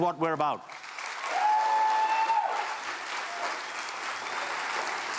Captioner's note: applause